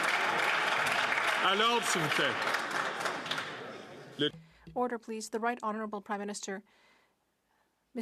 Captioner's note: some Applause